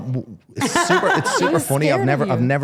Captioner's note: Stephanie laughing